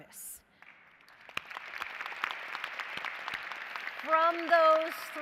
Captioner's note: applause